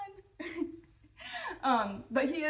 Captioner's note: chuckling